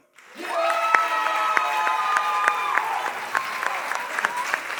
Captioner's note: audience applauding